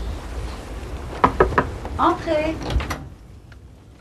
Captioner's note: knock on door